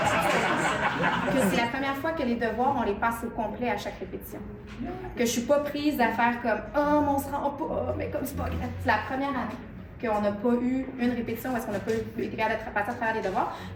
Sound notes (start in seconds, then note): 0.0 laughs